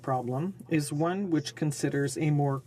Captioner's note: speaking French